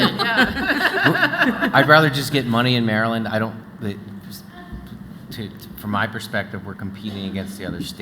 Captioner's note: laughter